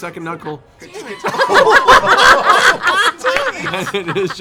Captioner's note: laughter